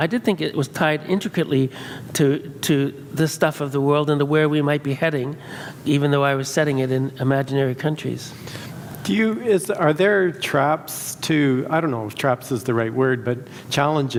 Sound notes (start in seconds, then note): none